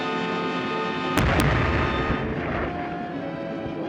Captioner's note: loud explosion; fast-paced music